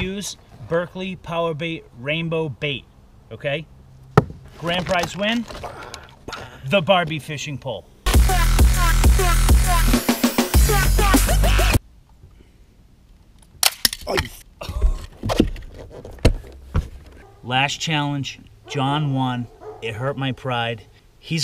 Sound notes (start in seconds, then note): 8.0 dubstep music; 14.6 laughs